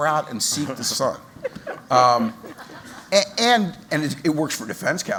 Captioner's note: laughter